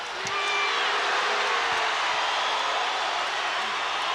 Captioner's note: crowd boos